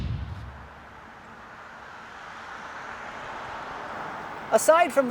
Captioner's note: air whooshing